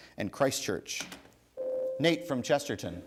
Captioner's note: ding